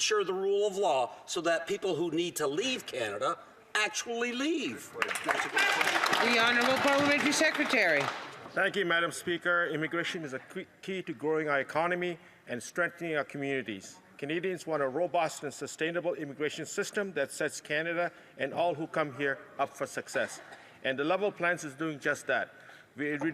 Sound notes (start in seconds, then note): 8.8 some Applause